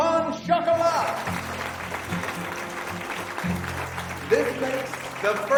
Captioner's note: audience clapping